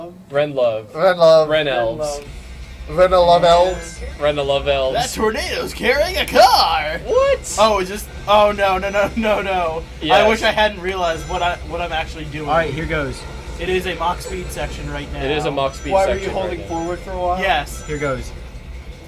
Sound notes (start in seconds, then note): 13.2 phone ringing sound from Condit's phone